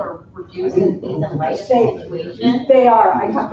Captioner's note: group chatter